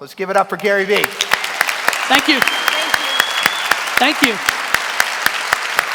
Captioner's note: applause